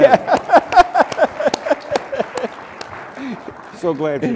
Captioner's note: laughter